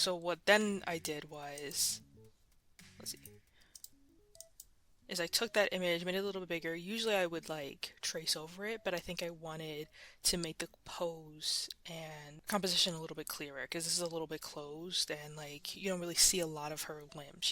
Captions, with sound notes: Like, so what, then I did was... Let's see. [Mouse Clicking] is I took that image, made it a little bit bigger. Usually, I would, like, trace over it, but I think I wanted to make the pose and composition a little bit clearer because this is a little bit closed and, like, you don't really see a lot of her limbs.